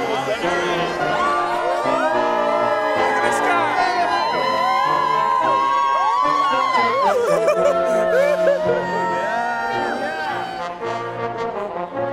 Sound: applause

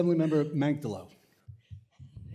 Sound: laughter

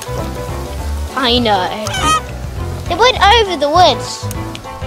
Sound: goose Honk

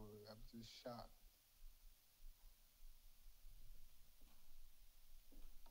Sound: none

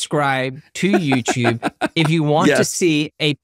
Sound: laughing

